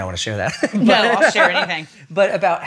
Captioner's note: laughs